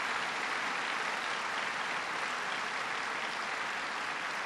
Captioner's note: applause